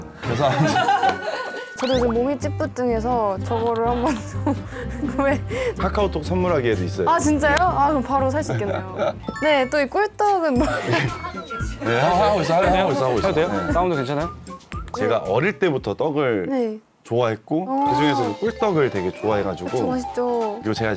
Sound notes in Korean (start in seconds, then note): 10.6 현웃 터짐